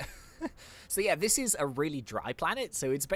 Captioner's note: laughs